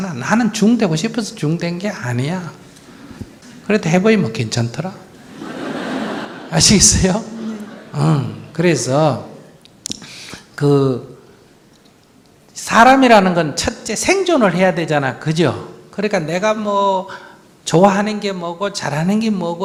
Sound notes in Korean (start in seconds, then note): 5.2 청중 웃음